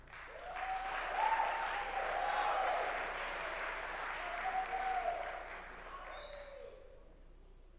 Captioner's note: applause